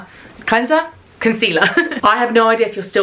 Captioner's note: laughs